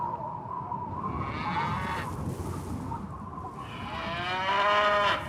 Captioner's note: cow mooing